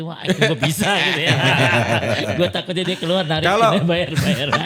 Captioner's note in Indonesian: tertawa